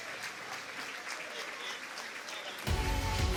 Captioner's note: applause